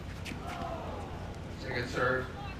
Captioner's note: crowd